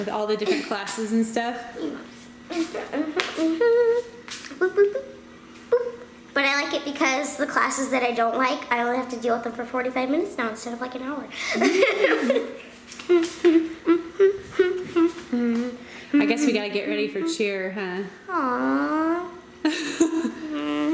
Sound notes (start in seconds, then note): 13.0 humming; 13.0 laughing